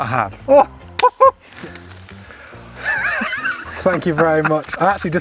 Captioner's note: laughs